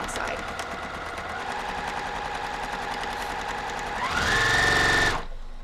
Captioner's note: machine whirring